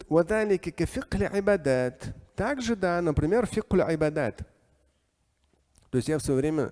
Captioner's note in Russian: говорит на арабском; говорит на арабском